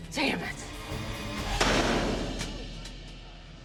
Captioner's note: metal clanking